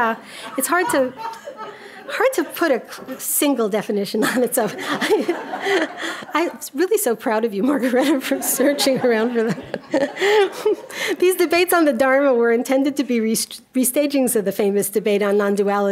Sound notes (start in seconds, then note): 4.2 audience laughing; 10.5 audience laughing